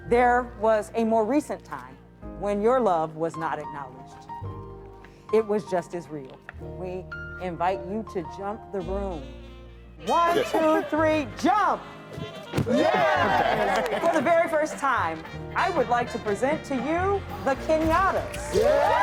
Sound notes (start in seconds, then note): 12.0 feet thump